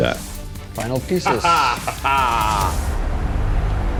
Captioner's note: laughs